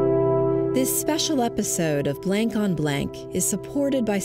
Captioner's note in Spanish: Voz en off